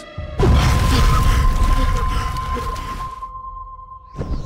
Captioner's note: gasping